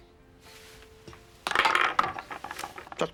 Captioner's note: pawn rattles